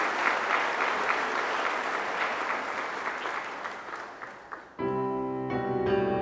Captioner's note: applause